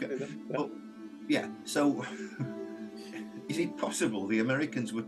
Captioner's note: chuckles